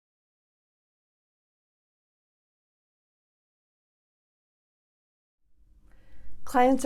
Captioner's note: silence